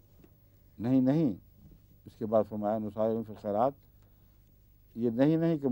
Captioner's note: Arabic